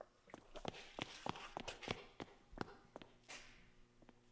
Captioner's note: footsteps stomping